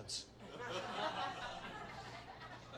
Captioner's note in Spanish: risas